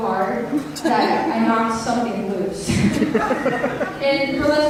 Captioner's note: audience laughter